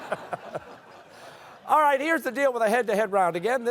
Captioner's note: laughter